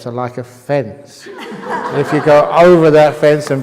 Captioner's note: laughter